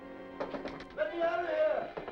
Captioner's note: Vitamin knocking